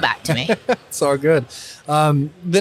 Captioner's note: laughs